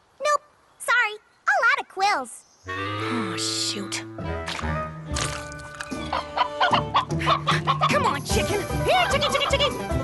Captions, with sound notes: Nope, sorry. All out of quills. Aw, shoot. [ Clucking ] Come on, chicken! Here, chicky, chicky, chicky!